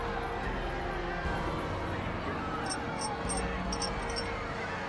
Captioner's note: metal clanking